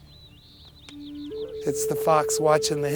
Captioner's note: birds chirping